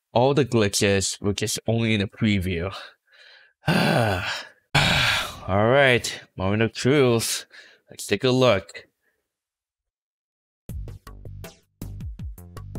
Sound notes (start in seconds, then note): 3.6 sighs again; 3.6 sigh